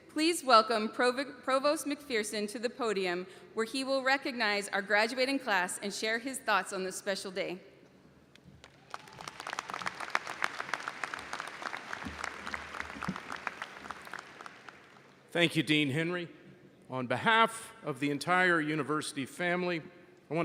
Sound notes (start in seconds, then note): 8.5 audience applauds